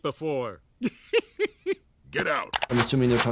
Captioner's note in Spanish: risas